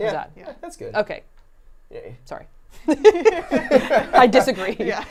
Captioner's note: laughing